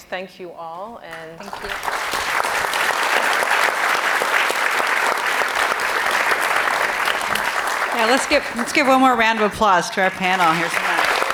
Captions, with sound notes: thank you all. (audience applauding) - Let's give one more round of applause to our panel.